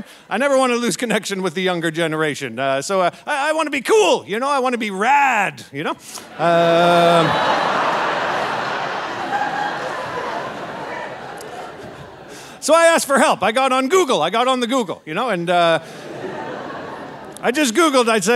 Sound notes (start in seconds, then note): 6.2 audience laughing